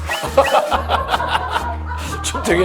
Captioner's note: hahaha